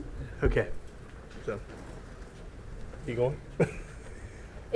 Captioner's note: laughter